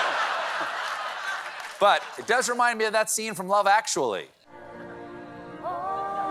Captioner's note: laughter